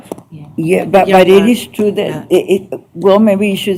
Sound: none

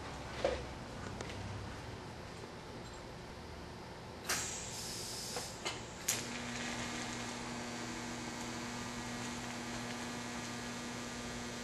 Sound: welding

